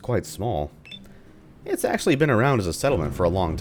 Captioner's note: thunder